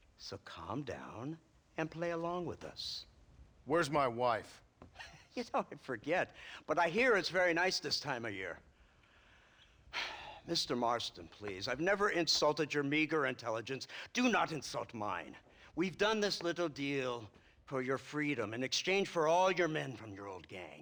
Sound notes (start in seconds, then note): 5.0 laughing; 9.9 sigh